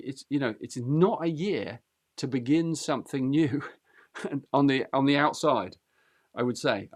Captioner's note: chuckles